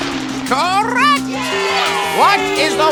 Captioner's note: cheer